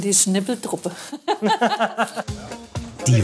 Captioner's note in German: Lachen